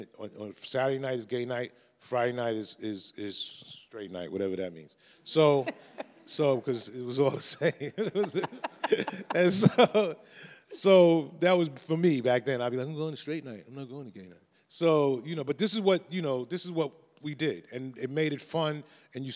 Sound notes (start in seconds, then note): 5.5 laughs; 7.4 everyone laughs